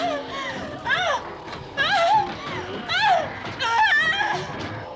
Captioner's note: whimpering